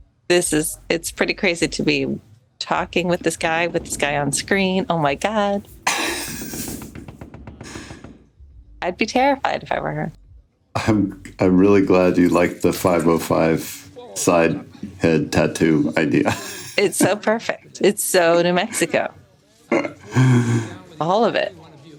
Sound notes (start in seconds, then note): 5.8 laughs; 15.6 chuckles